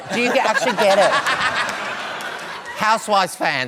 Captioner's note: laughter